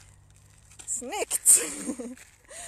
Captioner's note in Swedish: Skrattar